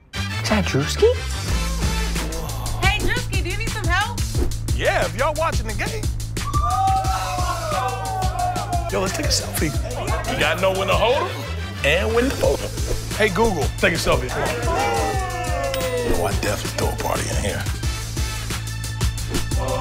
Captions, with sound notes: Is that Druski? Woahhh. Hey, Druski, do you need some help? Yeah, if y’all are watching the game. [cheering] Yo, let’s take a selfie. You gotta know when to hold ‘em, and when to fold ‘em. Hey Google, take a selfie. Oh, I’d definitely throw a party in here.